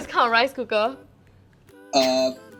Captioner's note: silence